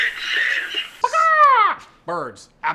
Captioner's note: makes a chicken sound